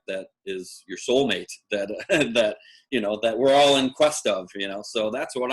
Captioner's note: laugh